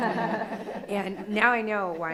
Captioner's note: crowd laughs